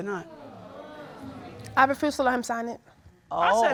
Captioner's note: audience exclaims